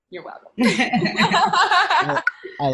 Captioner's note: women laughing